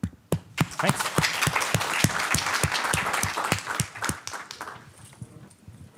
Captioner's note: applause